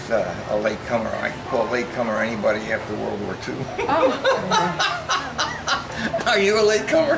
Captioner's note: laughs